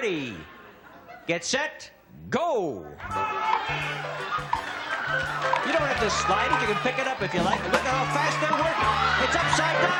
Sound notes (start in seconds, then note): 3.0 cheering